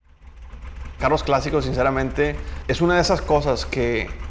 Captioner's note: Spanish